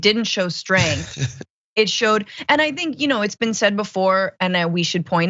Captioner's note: laugh